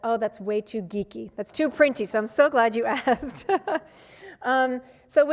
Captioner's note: laughs